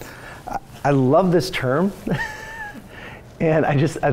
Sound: laughs

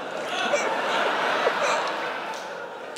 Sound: laughter; gargling water; spits water

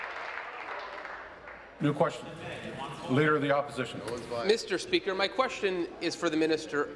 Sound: applause

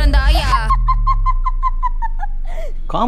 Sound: devilish laughter

